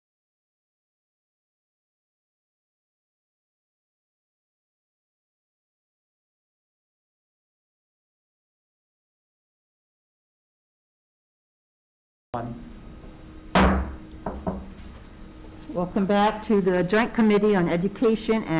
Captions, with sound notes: (gavel bangs) Welcome back to the joint committee on education